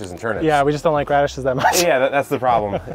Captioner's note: laughs